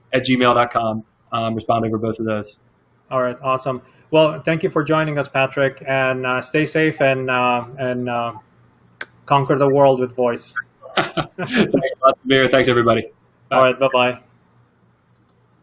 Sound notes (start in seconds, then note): 10.8 laughing happily